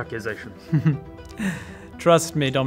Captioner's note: smug chuckle